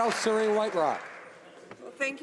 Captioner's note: some Applause